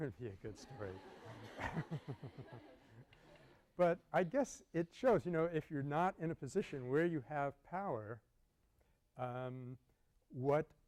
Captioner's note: laughter